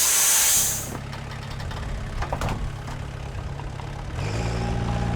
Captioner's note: engine rumbling